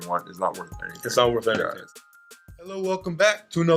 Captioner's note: voiceover